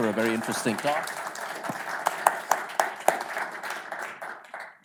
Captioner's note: applause